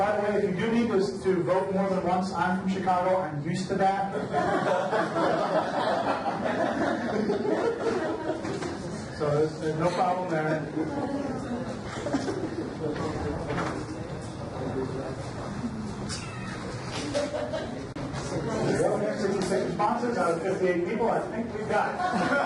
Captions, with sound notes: By the way, if you do need to vote more than once, I'm from Chicago, I'm used to that. (audience laughs) So there's no problem there. (overlapping chatter) 166 responses out of 58 people, I think we've got it.